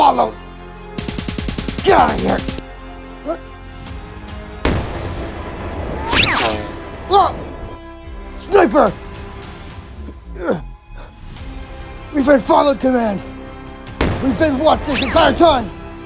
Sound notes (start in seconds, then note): 0.9 rapid gun fire; 4.6 gun fire sound